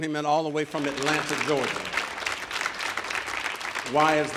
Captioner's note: audience applauding